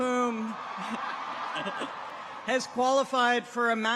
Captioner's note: people cheer